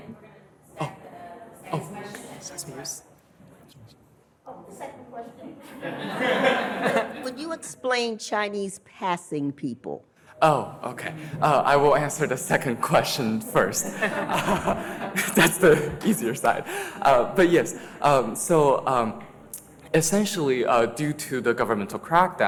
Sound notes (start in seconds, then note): 5.6 audience laughs; 14.8 laughs